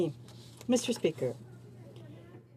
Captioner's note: speaking French